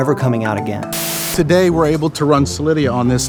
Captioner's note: static